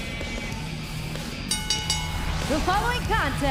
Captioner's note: bell ringing